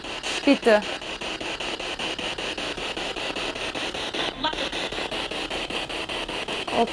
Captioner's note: noise of the spiritbox in the background